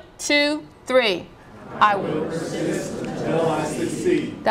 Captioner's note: laughter